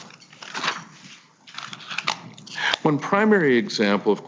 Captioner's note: papers shuffling